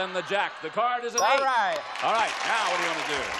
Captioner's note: applause